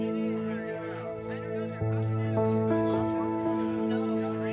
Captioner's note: people chatting